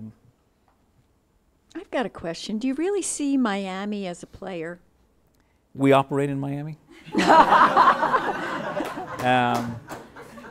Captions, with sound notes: - I've got a question, do you really see Miami as a player? - We operate in Miami. (laughing)